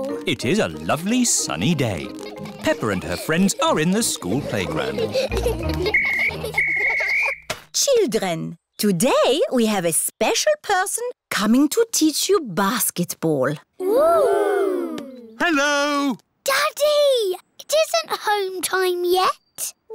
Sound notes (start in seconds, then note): 5.9 blows whistle